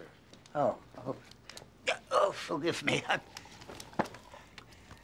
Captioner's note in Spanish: gemidos